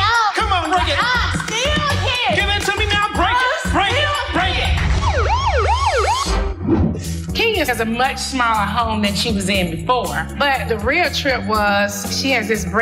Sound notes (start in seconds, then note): 4.4 siren blares